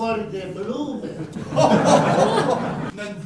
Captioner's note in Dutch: publiek lacht